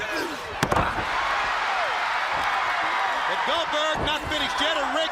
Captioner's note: crowd cheering